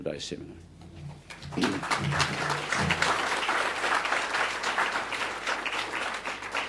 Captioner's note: audience applause